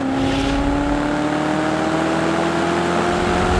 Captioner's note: car engine revving